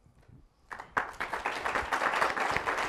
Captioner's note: applause